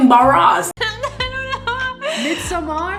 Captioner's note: laughs